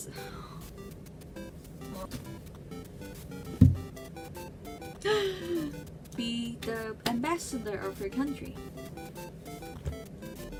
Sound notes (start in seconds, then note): 5.0 got up and sighhhhh